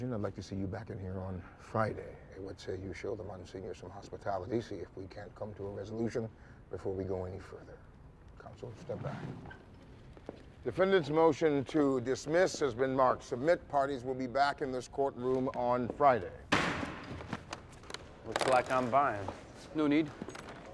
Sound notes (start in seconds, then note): 16.5 gavel bangs